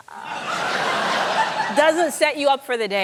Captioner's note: laughter